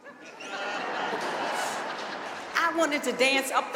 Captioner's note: audience laughing